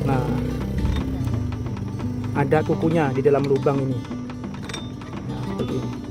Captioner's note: ring